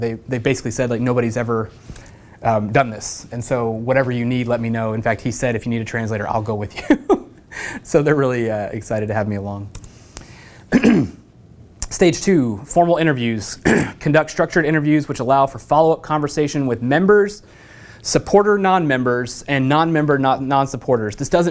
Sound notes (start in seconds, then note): 6.9 laugh; 10.7 cough